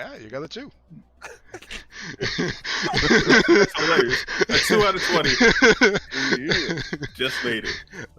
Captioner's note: laughter